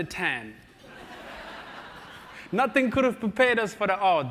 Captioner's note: laugh